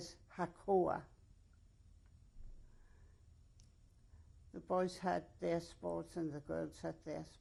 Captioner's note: pauses for 3 seconds